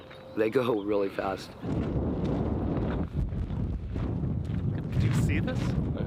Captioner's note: loud wind blowing